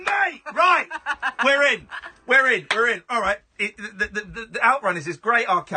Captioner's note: laughing